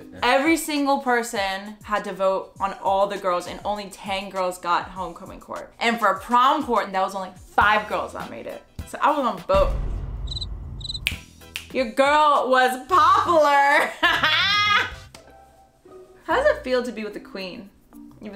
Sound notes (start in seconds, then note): 10.8 crickets chirping; 11.5 fingers clicking; 14.0 laughing